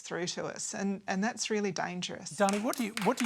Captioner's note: applause